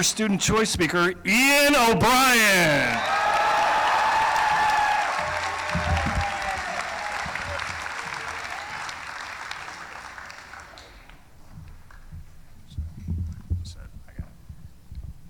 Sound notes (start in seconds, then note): 1.6 applause; 2.0 cheering